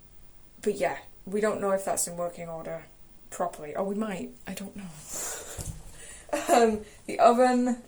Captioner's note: laughs